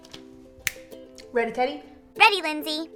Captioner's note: snaps